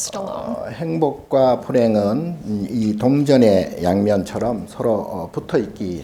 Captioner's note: speaking Korean